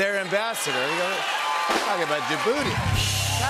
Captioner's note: cheers and applause